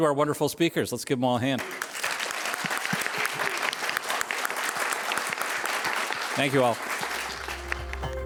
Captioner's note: applause